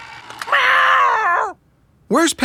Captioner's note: mewling